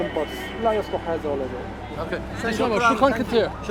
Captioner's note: speaking Arabic